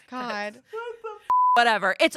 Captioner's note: beep